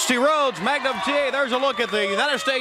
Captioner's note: crowd cheering